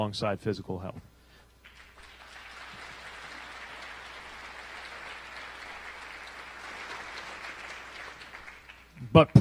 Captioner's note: applause